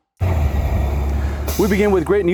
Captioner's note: bus rumbling